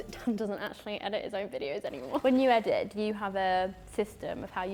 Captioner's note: none